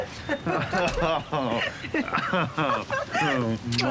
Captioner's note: both laugh